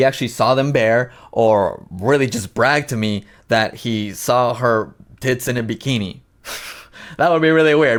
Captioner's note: chuckles